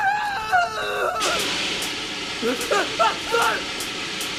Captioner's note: Paul screaming; fire hissing